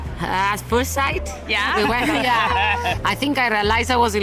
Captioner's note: laughs